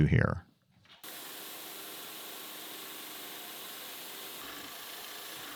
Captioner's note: machine humming